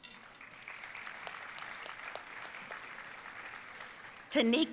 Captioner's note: audience applauding